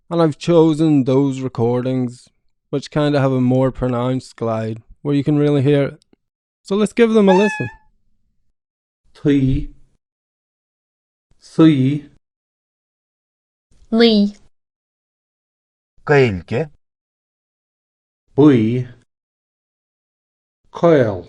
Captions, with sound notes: and I've chosen those recordings which kinda have a more pronounced glide where you can really hear it. So, let's give them a listen! [Meow]